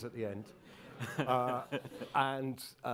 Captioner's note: crowd chuckling